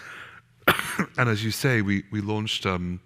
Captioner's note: coughing